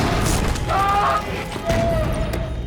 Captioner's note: ominous music; shouting